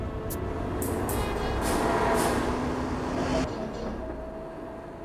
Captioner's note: traffic whooshing